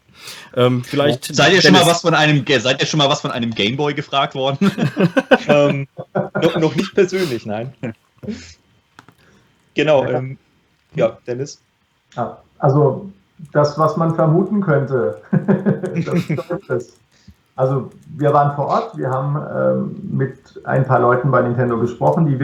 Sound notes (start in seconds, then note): 4.6 laughter